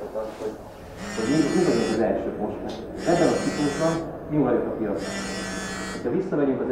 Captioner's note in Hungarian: telefonrezgés